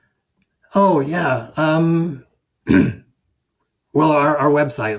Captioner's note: clears throat